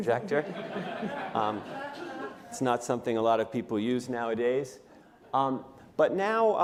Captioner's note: laughter